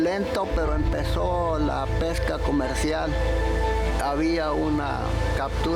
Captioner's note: speaking in foreign language